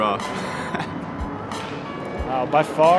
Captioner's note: laughs